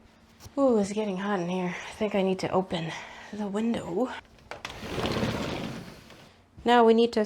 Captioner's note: window whooshes open